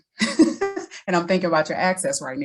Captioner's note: laughs